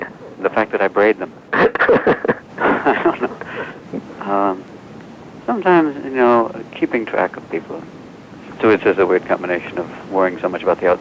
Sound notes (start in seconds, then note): 1.5 laughs